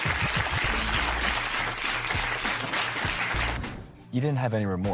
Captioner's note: applause